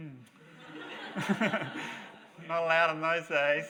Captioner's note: audience laughs